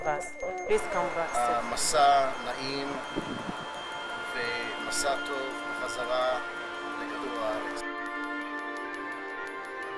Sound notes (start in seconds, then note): 1.6 speaking hebrew